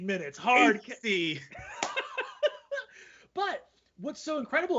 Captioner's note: laughing